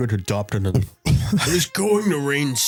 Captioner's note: laughs